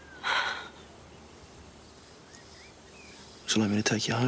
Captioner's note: Jodie sighs